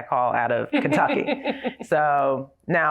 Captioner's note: laughs